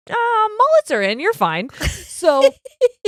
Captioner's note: laughing